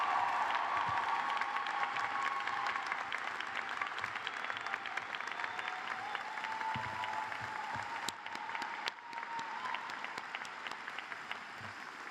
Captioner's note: cheers and applause